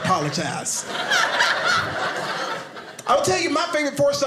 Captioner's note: audience laughing